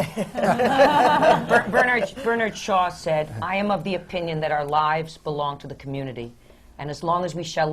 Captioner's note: laughter